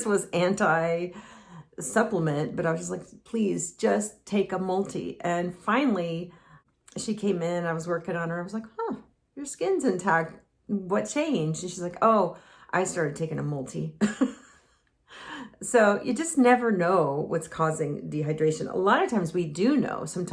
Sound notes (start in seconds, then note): 14.0 chuckles